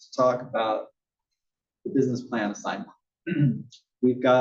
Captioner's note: cough